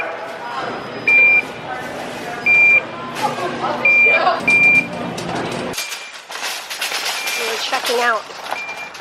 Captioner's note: pump beeping